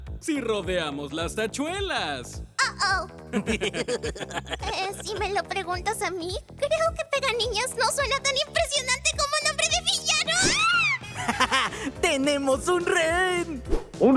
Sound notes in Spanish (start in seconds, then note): 3.3 Risas malvadas